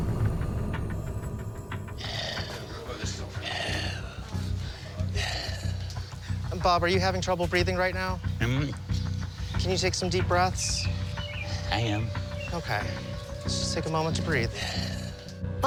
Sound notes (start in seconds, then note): 3.4 pants